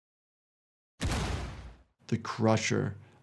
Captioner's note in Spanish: disparos de pistola